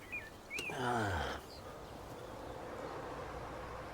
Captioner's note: groans